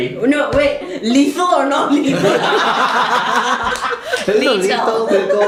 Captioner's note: laughter